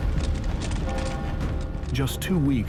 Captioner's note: bell tolling